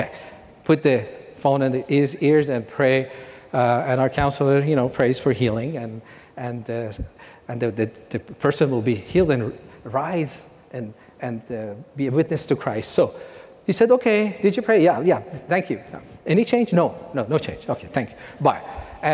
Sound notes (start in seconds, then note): none